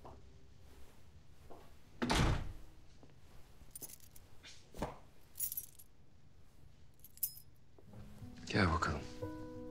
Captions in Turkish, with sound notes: (Kapı kapanma sesi) Gel bakalım.